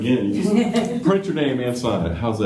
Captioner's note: laughter